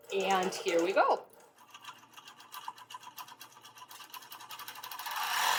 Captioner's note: sewing machine running